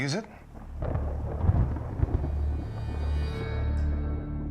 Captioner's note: thunder rumbles